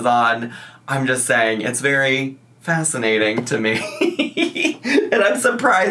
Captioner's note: laughs